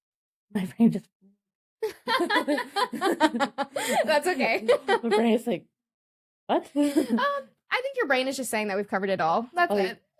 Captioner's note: laughs